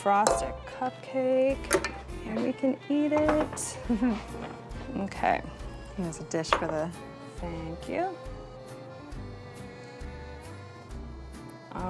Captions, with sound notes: and you can frost a cupcake and we can eat it. [giggles] - Okay. - Here's a dish for that. Thank you.